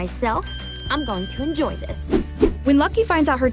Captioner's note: bell ringing